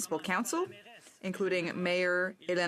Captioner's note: speaking French